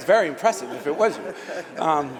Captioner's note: laughter